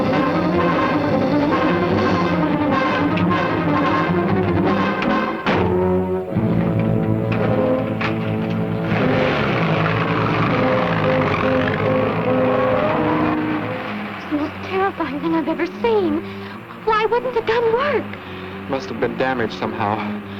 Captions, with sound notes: [ DOOR SLAMS ] [ CAR REVVING ] It was the most terrifying thing I've ever seen! Why wouldn't the gun work? Must have been damaged somehow,